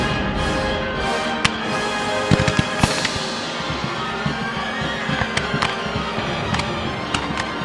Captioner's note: muskets firing and loading